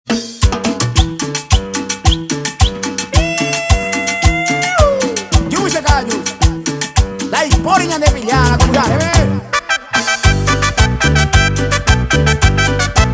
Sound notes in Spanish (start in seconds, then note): 2.0 piiiuuuu; 2.0 silbidos